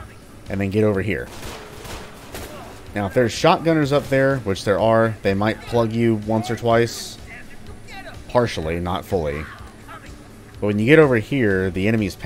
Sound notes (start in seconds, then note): 6.9 nonstop Vulture chatter